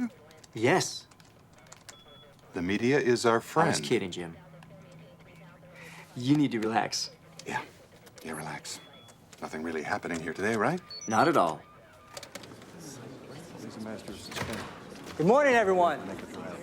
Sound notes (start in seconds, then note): 3.4 alarm; 4.7 phone filter speech